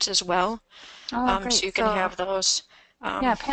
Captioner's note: voiceover